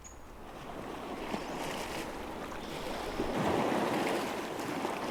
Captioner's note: water lapping